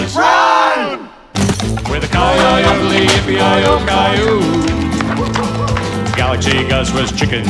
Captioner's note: wolf howling